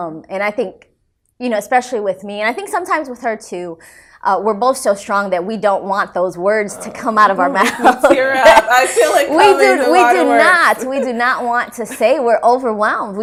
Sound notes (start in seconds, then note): 7.6 laughter